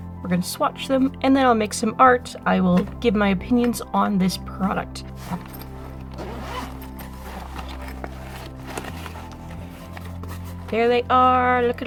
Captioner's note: zipper sounds